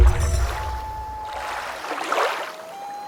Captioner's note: water rushing, loon calling